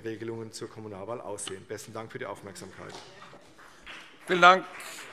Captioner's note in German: Beifall CDU und BÜNDNIS 90/DIE GRÜNEN